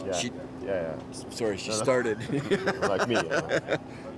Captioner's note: chuckles